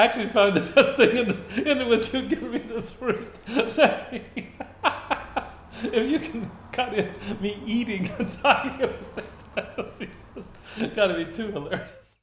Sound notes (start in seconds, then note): 9.6 laughing... Illegible